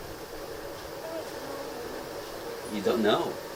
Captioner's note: baby babbling